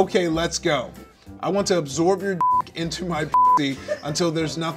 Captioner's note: beep